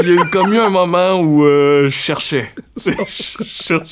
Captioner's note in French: rires